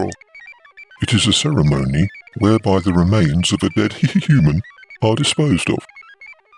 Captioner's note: laughs